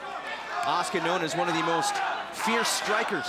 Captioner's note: crowd chatter